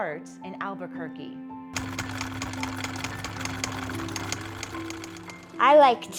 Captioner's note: inspiring music; mechanical clicking